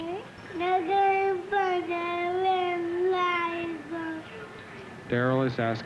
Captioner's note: Spanish speaking